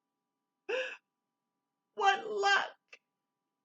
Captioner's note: gasp